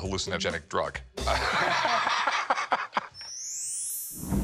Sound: chuckling

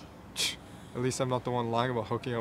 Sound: Diego scoffs

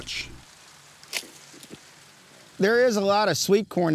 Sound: corn breaks off

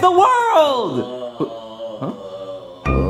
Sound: Luigi groaning

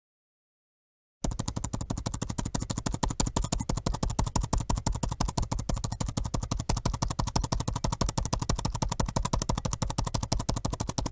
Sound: sound of typing in a laptop

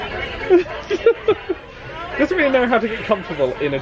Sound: laughs

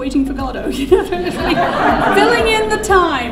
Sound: audience laughing

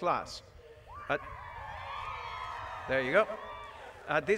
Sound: applause

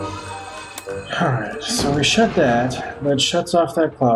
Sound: sighs

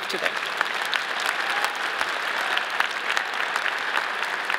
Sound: audience applauding

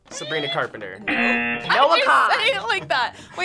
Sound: buzzer sounds

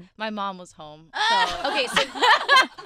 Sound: laughing

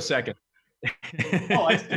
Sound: laughs

